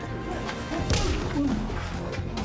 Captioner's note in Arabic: تأوه; لكمة